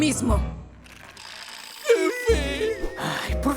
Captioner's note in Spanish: Parachoques chillando